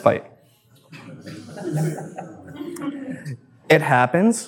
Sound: audience laughs

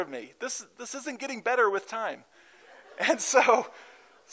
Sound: laughter

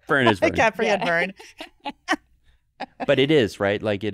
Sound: group laughing

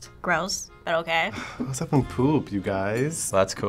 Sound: sighs

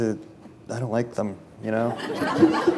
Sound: laughter

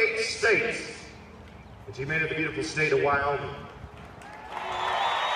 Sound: applause and cheers

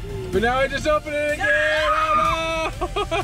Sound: screams; laughs

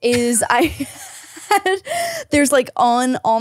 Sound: both laugh

